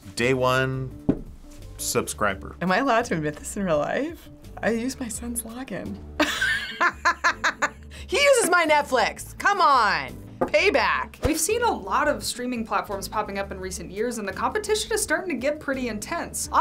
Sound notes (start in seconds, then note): 6.2 laughs